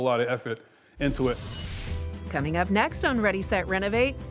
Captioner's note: swooshing